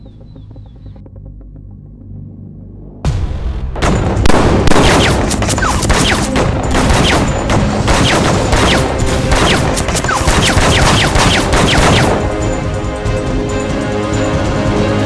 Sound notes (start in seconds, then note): 3.8 gunshots firing